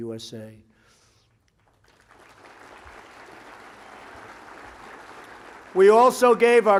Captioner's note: applause